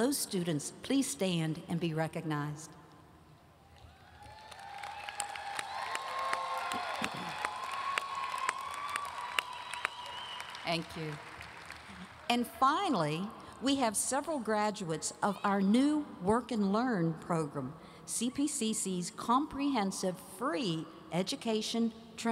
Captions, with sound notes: Will those students please stand and be recognized? (audience cheering and applauding) Thank you. And finally, we have several graduates of our new Work and Learn program, CPCC's comprehensive, free education,